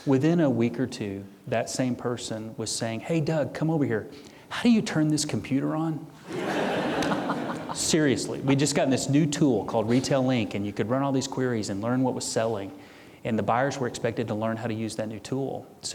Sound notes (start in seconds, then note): 6.2 audience laughing loudly